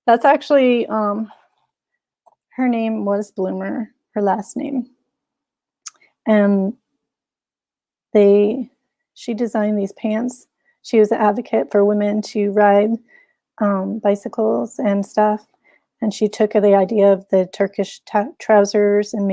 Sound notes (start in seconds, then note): none